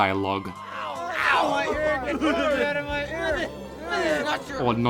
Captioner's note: chattering